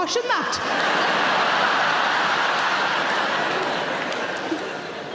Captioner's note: audience laughing